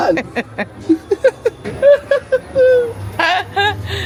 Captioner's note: both laughing